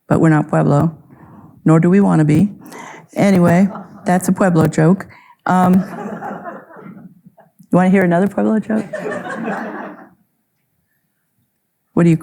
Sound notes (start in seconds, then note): 3.6 audience member laughing; 5.6 audience laughing; 8.6 audience laughing